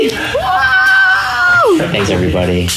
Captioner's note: cheering